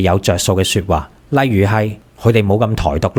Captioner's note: Taiwanese